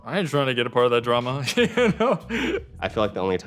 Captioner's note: laughing